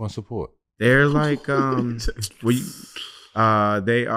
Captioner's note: chuckling